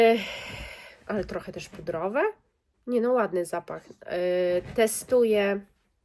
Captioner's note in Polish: westchnienie